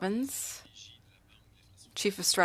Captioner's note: speaking French